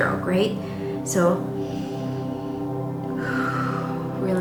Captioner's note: inhaling; exhaling